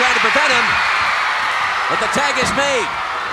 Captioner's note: audience cheering